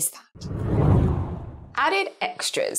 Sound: screen whooshes

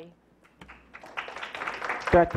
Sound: clapping

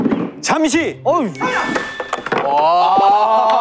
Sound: ding dong

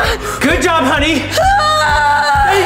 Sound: screaming

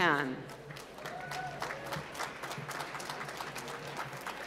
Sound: applause

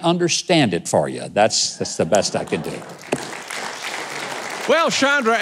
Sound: audience clapping

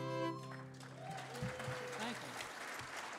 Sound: audience cheering

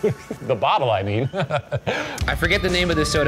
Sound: laughs

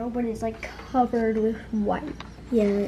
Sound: none

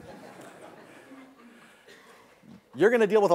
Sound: laughter

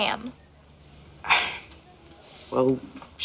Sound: sighs

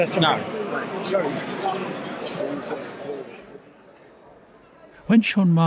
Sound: crowd chattering

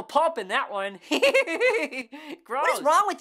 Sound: laughs

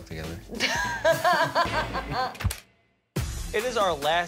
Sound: Deena laughs

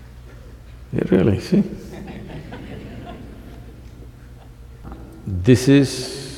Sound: few Laugh

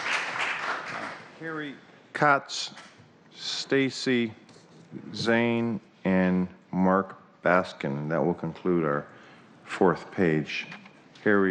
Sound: applause

